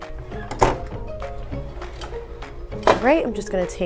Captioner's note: handle clicks